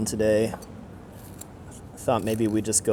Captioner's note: knife scrapes